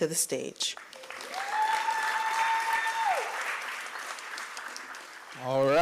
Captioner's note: applause